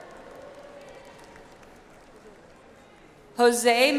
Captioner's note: audience applauds